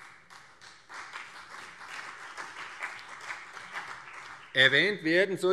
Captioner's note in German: Beifall CDU und BÜNDNIS 90/DIE GRÜNEN